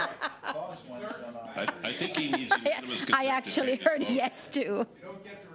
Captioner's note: laughter